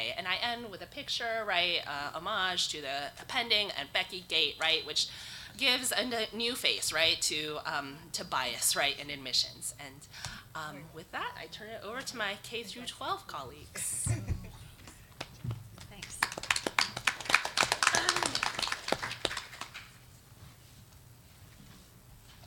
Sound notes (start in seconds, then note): 13.8 laughs; 15.8 audience applauding